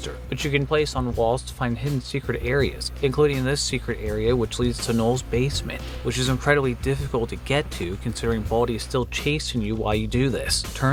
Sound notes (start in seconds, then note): none